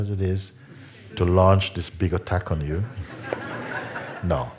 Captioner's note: Lachen